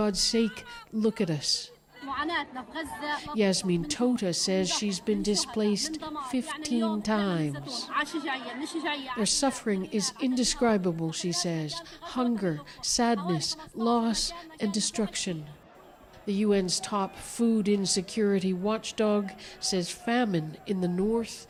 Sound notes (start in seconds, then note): 3.9 speaking alternate language